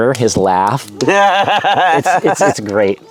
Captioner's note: laughing